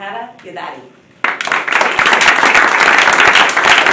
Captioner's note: applause